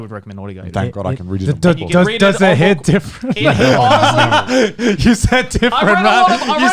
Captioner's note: laughing